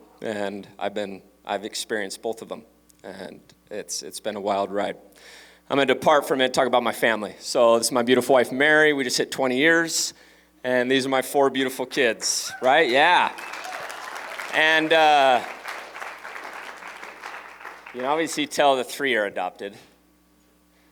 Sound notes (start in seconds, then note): 12.5 applause